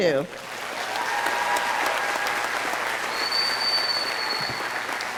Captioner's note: audience cheering